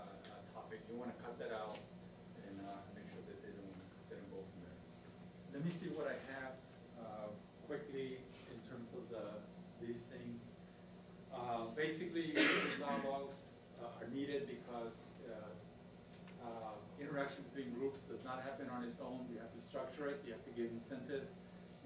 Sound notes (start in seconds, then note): 12.3 coughing